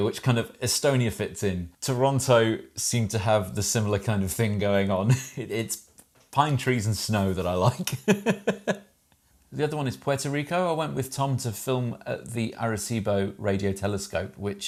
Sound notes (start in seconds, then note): 7.7 laughs